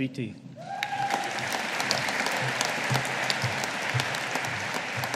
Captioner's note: audience applauding